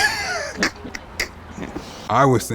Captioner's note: laughs